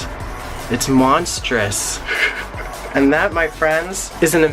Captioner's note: laughs